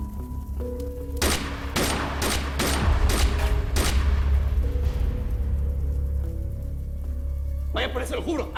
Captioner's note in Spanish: Disparos